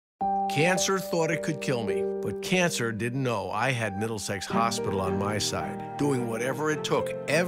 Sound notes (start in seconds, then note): 0.2 piano music; 0.5 voiceover